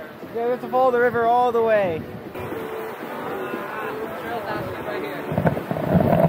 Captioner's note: distant groan